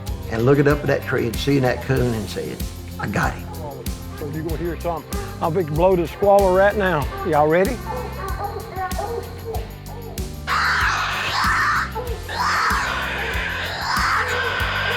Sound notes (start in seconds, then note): 7.6 dogs barking; 10.4 screech